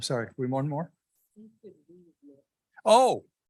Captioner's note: speaker speaking faintly